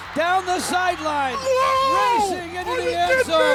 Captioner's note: yelling